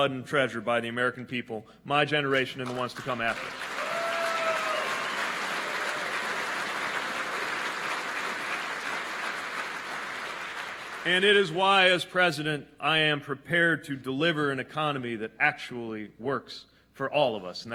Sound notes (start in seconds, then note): 7.3 applause